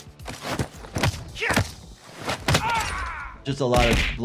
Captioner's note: fist thudding